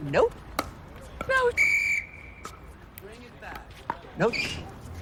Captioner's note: blowing whistle